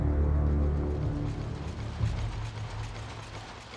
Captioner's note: machinery clacking